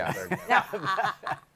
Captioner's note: laughter